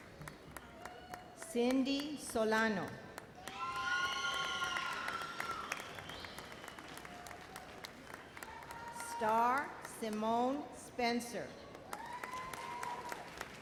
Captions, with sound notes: Cindy Solano. (loud cheers) Starr Simone Spencer. (audience applauds and cheers)